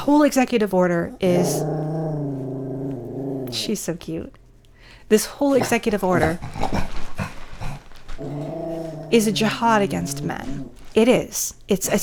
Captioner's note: growling